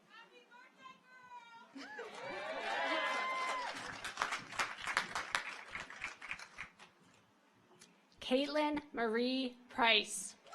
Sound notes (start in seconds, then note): 1.8 audience cheers